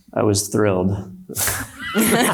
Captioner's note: panelists laughs